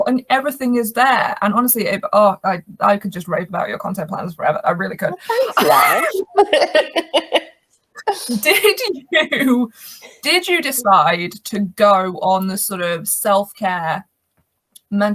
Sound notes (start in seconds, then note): 7.0 laugh